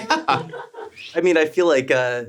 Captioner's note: everyone laughs